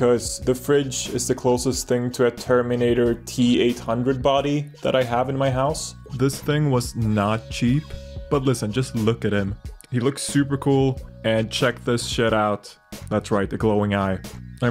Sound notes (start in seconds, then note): none